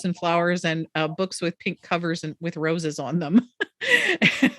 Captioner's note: laughs